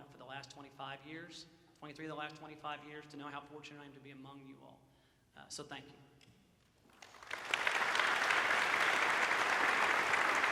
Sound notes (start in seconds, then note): 7.0 audience applauds